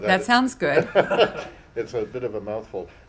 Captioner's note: laughter